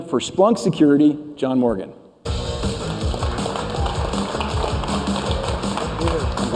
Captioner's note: applause